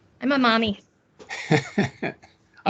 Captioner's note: laughing